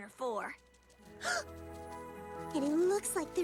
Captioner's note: gasps